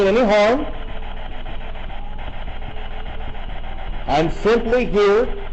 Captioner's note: static buzzing